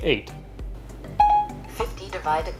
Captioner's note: electronic dinging